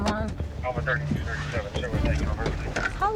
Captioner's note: radio chatter